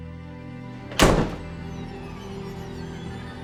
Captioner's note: door slams